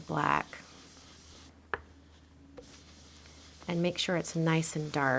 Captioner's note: brush scrubbing